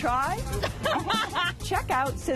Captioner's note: laughs